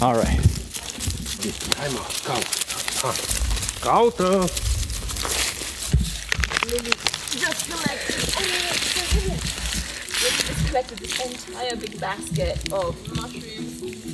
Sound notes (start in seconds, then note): 2.0 speaking Romanian; 6.8 crackling